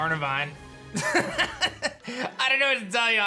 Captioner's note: laughs